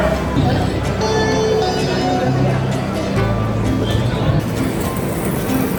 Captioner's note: public address system chiming; gentle music